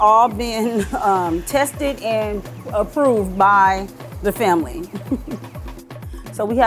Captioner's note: laughs